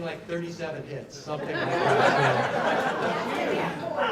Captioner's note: laughter